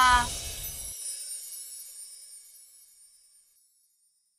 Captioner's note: logo twinkles